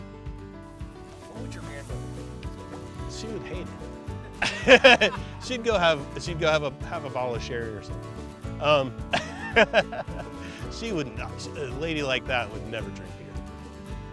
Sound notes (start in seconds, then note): 4.2 laughing; 9.1 laughing